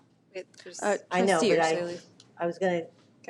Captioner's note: both chattering